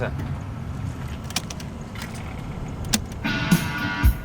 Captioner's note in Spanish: Sonido al poner el casete